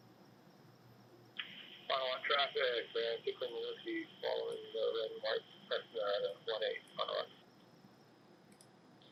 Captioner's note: radio